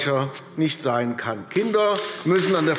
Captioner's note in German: Beifall AfD